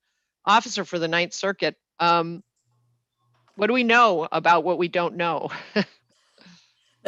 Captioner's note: laughs